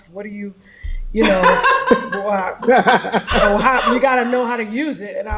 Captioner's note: laughs